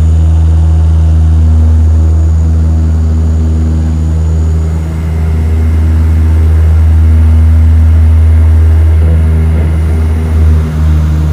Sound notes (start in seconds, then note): 2.2 engines roaring